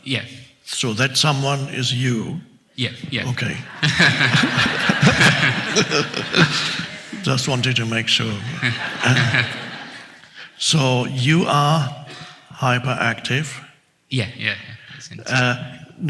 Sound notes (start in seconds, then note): 3.4 all laugh; 9.2 audience chuckles